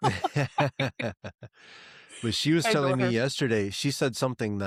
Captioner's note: both Laughing